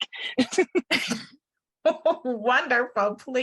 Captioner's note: laughs